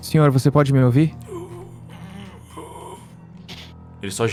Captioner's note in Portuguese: Gemidos